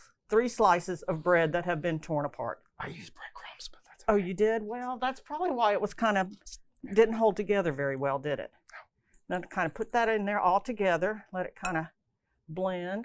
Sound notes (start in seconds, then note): 2.5 whispering